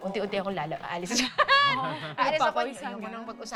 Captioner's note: laughs